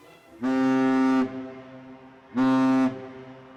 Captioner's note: horn blares